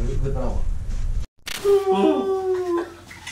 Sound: wailing

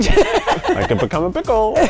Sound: laughing

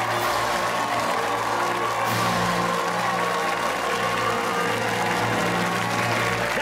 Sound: fanfare playing; cheers and applause

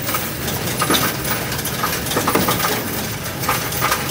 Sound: coins rattling

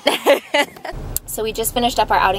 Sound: laughs

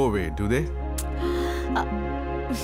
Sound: clicks tongue

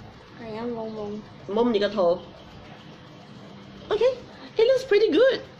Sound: speaks foreign language

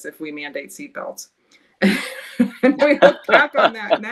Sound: group laughing

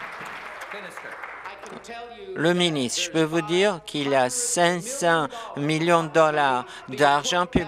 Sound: applause

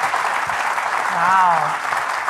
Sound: audience continues applauding

